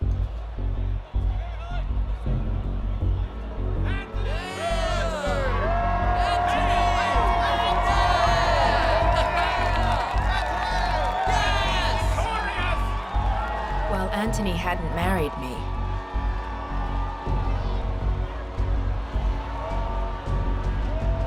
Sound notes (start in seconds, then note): 0.2 crowd chattering; 0.2 suspenseful music; 4.9 man cheering; 9.0 laughs